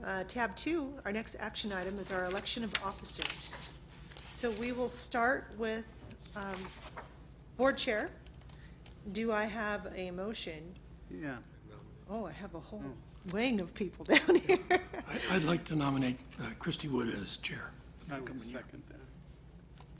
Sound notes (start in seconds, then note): 14.5 laughs